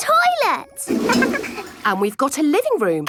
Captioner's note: toilet flush